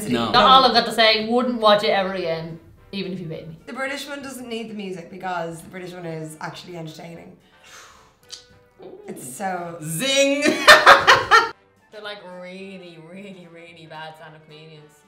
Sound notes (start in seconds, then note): 8.2 guy smacks lips; 10.4 laughs loudly